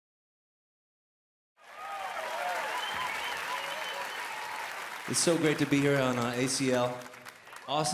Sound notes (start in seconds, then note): 1.6 applause and cheering